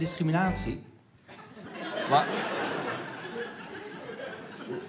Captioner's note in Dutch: Gelach